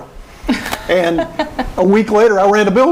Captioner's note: laughing